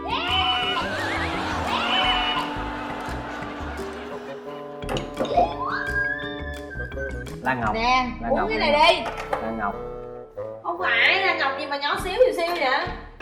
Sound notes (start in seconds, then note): 0.2 laughing; 4.7 squeals